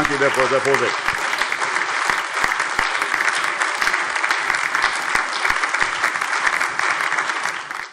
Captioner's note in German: Allgemeiner Beifall